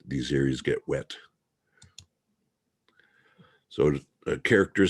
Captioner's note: mouse clicking